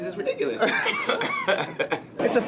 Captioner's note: laughing